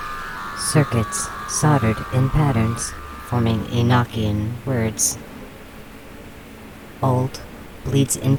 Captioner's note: the frenzied swarm calms